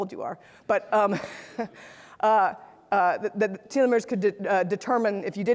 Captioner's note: laughs